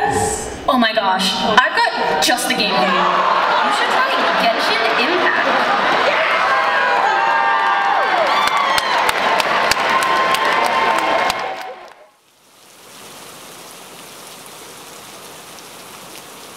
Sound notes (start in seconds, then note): 3.6 audience roars; 6.2 applause